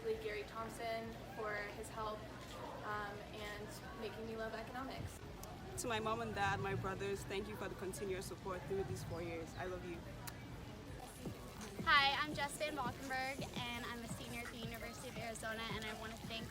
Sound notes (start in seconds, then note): 10.2 kiss